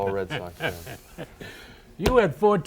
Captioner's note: laughing